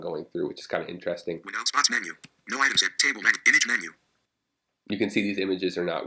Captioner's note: screen Reader Reading